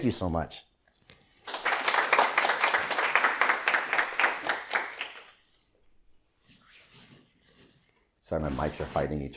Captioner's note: applause